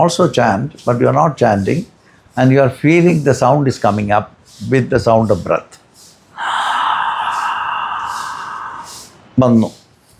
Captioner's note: sighs